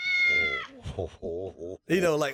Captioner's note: meow